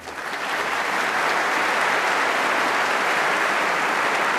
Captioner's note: applause